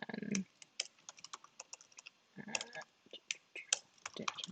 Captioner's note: keyboard rattling